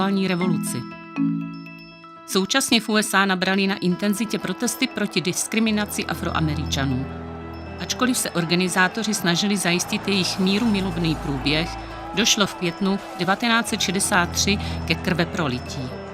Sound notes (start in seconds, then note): 3.9 hlučící dav